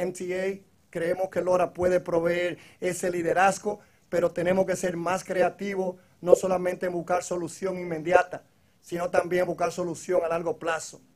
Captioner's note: speaking foreign language